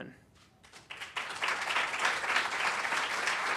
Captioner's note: applause